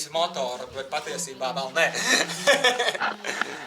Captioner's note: laughing